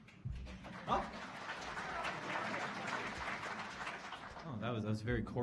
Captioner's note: audience applauding